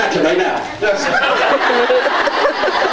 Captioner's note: laughs